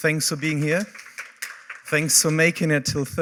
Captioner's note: applause